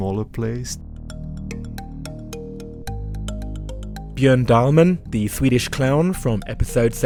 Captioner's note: voiceover